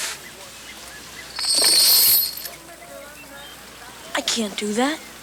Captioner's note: chain rattles